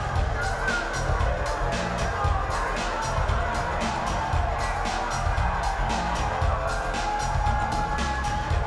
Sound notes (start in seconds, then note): 3.0 crowd cheering; 3.0 upbeat music